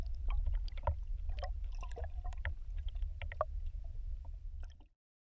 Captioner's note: water splash